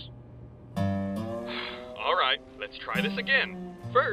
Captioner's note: sigh